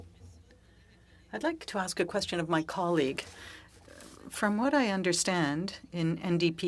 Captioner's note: speaking French